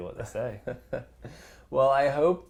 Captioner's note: laugh